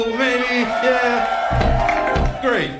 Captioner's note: audience cheering